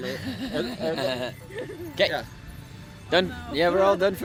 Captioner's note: laughs